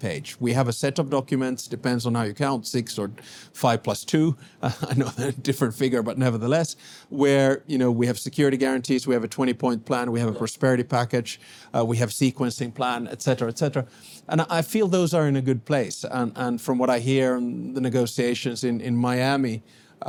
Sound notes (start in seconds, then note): 4.7 laughs